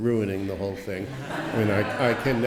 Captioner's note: laughter